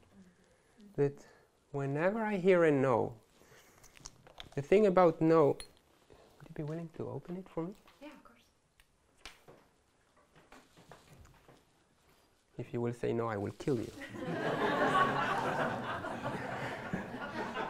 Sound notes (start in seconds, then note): 14.0 laughter